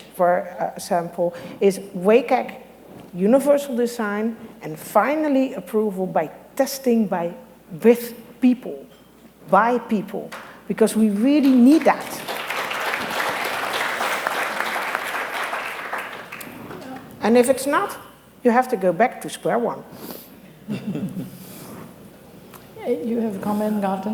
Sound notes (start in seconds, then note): 14.6 applause